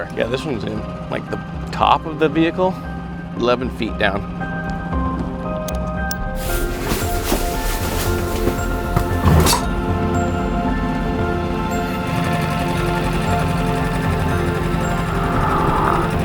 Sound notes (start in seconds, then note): 5.6 fastener clicking; 6.3 material rustling; 12.2 motor boat whirring